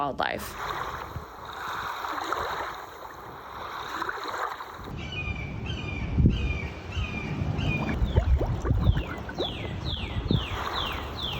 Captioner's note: ocean sounds